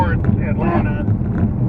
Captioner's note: horn honk